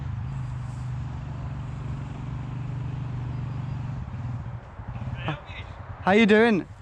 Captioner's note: bike engine rumbling